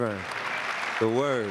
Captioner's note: audience clapping